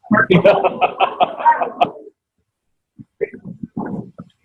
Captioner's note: laughing